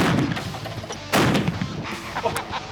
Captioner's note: laughing